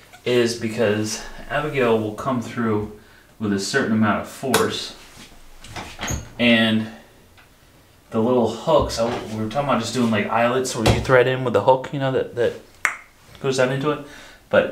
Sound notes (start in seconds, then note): none